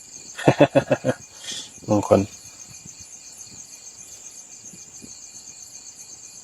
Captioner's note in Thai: เสียงหัวเราะ